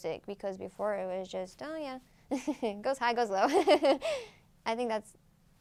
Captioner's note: laughs